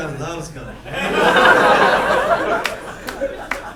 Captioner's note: laughing; clapping